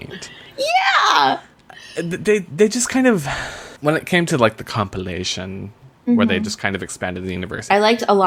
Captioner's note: sighs